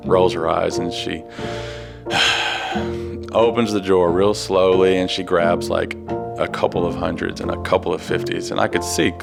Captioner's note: sighs